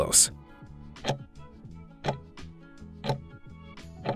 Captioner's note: timer ticking